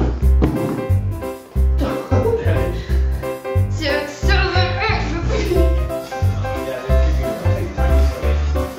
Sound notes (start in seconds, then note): 1.8 laughs; 3.6 mutters